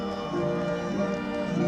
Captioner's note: bell